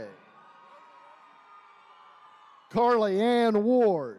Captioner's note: attendees cheering